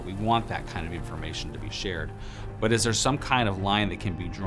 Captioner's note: none